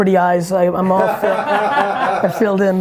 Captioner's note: laughs